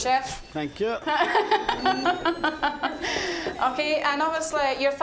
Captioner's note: laughing